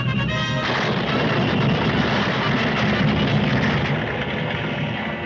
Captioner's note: triumphant music; debris clattering